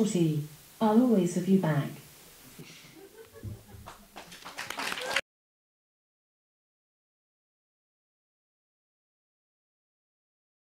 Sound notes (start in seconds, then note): 2.6 laughing; 3.3 audience applauding